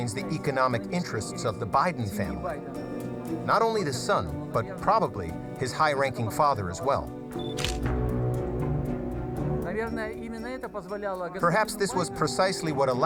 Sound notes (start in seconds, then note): 7.4 camera shutter clicking; 10.0 speaking foreign language